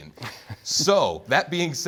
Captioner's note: laughter